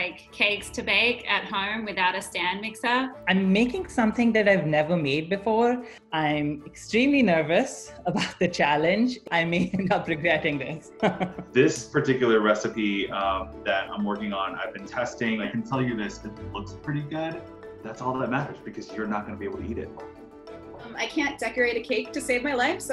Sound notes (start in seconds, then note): 10.8 laughs